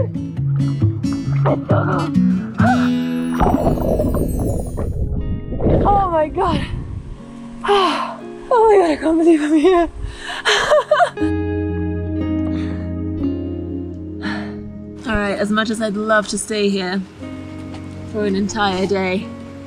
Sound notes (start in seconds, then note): 3.9 shrieks; 7.2 labored breathing; 11.3 laughs; 11.8 gentle calming music